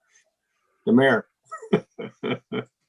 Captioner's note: laughs